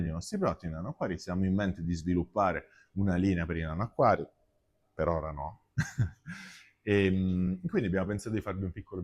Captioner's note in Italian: risate